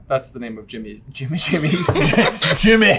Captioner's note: laughter